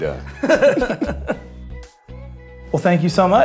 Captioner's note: laughs